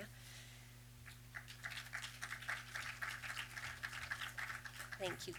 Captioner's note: applause